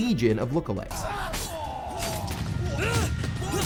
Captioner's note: fighting noises